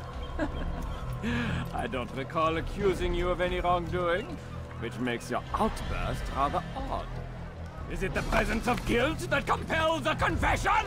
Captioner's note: laughs